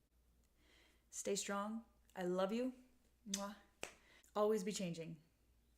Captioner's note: mwah